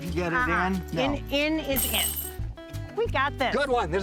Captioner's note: cage rattles